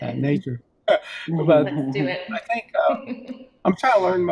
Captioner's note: laughs